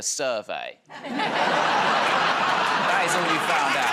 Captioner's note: laughter